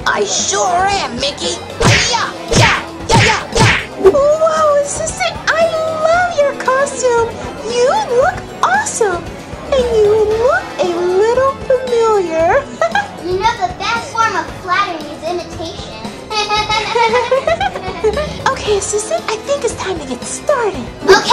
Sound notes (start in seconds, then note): 3.1 karate noises; 16.3 laughter